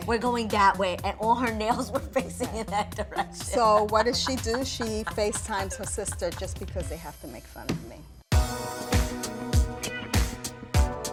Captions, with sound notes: - We're going that way, and all her nails were facing in that direction (laughs). - So what does she do? She FaceTimes her sister just because they have to make fun of me. (upbeat music)